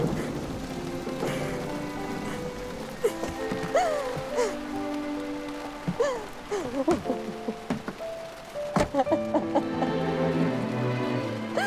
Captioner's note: thunder rumbles loudly; crying